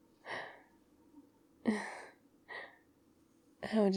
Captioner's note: gasps